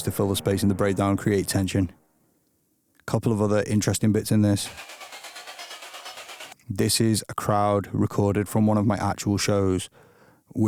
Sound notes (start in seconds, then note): 4.7 crowd cheer stutters